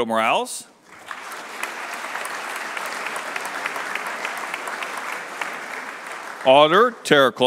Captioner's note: applause